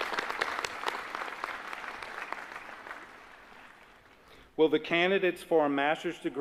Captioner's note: applause